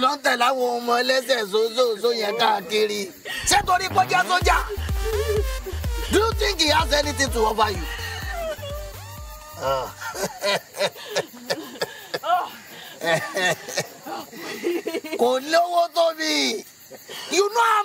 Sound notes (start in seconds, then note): 0.0 speaking in foreign language; 9.5 Ekong chuckles; 12.8 Tife sobbing; 15.5 Ekong speaking in foreign language